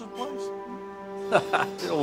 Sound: humming in agreement

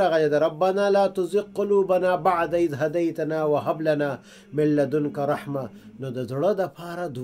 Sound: Arabic

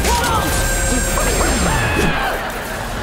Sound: screaming

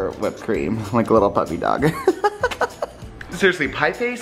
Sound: laughs

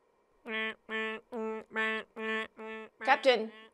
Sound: alarm beeping

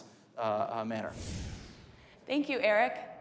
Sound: whoosh

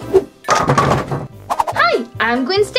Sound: bowling pins dropping

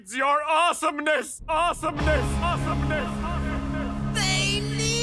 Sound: "awesomeness" echoing

